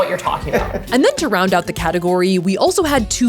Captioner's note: laughing